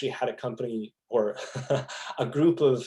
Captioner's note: laughing